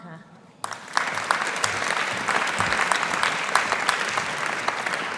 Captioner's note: audience applauding